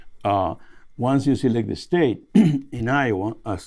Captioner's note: clears throat